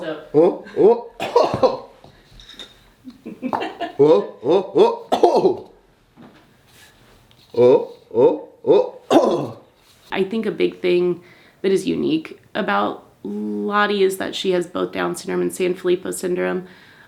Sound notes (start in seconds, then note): 1.2 pretends to sneeze; 3.0 laughing; 4.5 pretends to sneeze; 9.0 pretends to sneeze